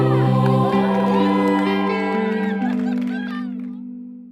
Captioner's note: campers cheering